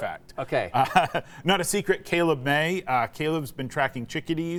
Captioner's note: laughs